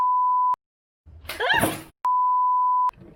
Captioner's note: screaming